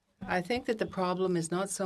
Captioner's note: speaking French